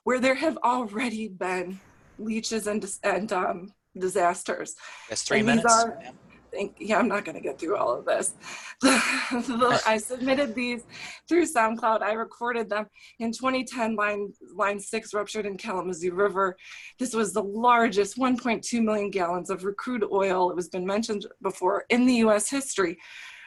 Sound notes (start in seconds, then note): 9.4 chuckles